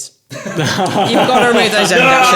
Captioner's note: laughing